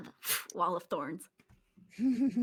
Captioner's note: exhales quickly